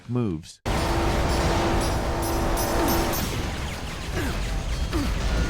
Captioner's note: explosions echoing